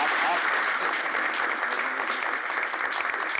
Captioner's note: crowd applauding